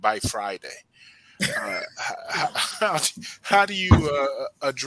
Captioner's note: laughing